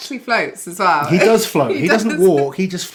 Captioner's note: laughs